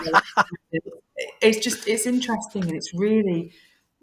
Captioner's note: laughing